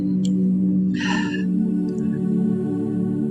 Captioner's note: sigh